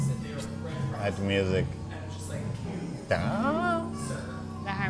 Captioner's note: mellow music; humming